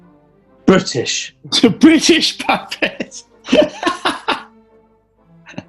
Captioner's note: laughing